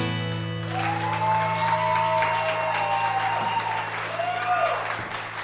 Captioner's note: guitar strumming; audience cheering and clapping